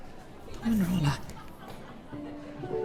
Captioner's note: in irish